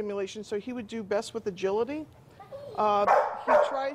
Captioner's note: dog barking